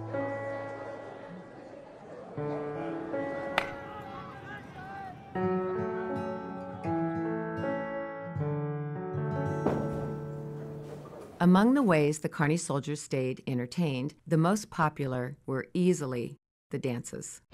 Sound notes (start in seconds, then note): 0.1 people chatter; 3.4 baseball bat clacks